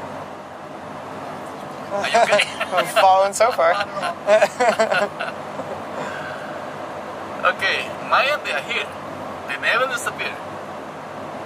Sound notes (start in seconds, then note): 4.6 chuckles